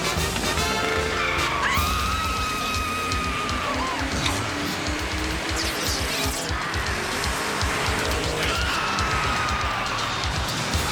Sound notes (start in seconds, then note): 1.1 screaming